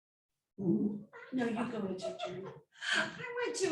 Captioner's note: laughing